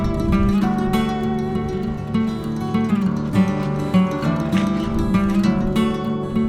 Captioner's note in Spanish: Zumbido del dron volando en algún lugar arriba